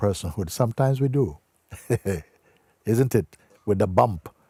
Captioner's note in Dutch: lacht